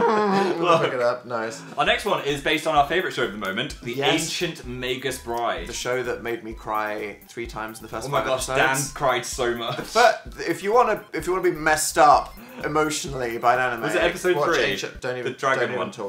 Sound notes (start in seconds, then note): 0.0 laughs again; 0.0 mimics Phil's laugh; 0.0 laughing; 10.0 stutters